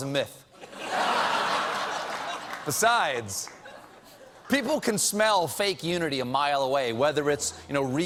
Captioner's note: laughter